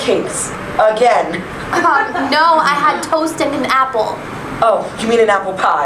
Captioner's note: laughter